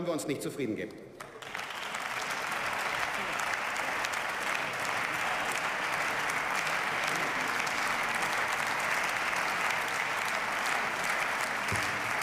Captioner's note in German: Beifall